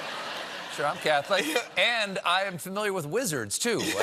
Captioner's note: laughter